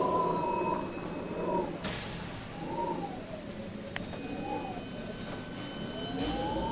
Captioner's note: eerie music continues; wind whistling